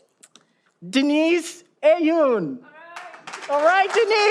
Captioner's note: audience applauding